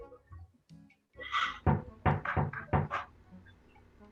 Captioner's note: tok tok